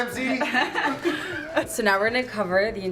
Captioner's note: laughing